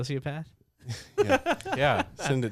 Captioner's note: laughing